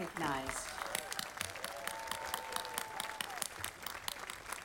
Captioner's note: audience applauding